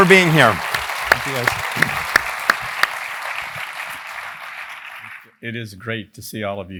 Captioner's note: applause